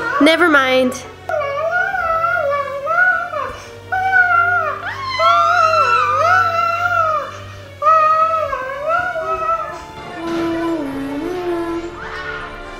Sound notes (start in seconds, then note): 2.2 kids screaming; 7.6 creepy music